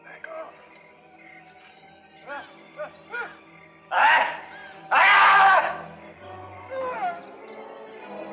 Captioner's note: screaming